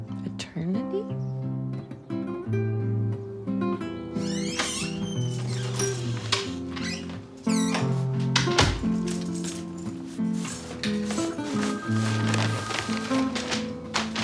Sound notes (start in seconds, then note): 1.9 warm acoustic guitar music; 4.1 door creaks; 4.4 keys clink; 7.5 door closes; 8.3 keys clink; 11.5 phone rings